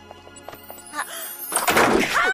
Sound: sparkly sound effect

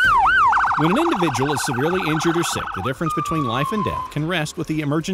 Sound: sirens

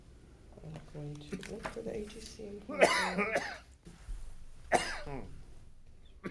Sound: coughing drowns out speaker

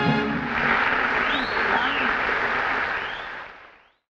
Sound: audience applauds

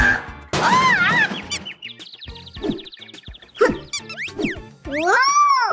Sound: knocking over trashcan

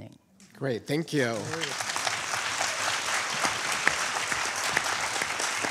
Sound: audience applauding

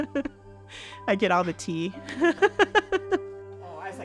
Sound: laughing

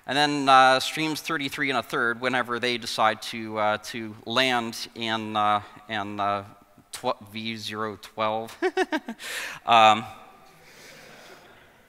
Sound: giggles

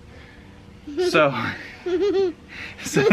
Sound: laughs

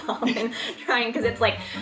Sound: laughs

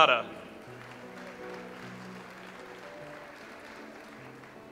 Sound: audience applauds

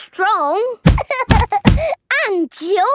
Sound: banging

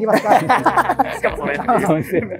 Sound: laughing

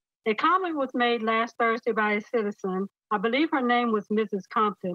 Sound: none

